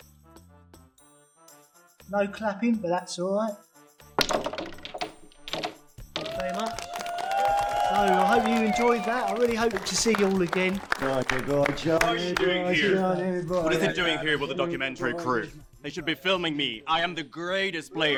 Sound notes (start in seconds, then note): 0.0 upbeat music; 4.1 balls fall in pockets; 4.1 cue ball strikes other balls; 6.1 audience claps and cheers